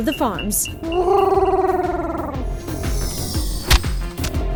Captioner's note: Huti hoots